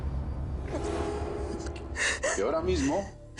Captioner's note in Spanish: Sollozos